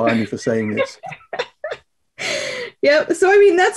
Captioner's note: laughs